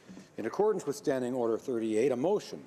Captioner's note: speaking in French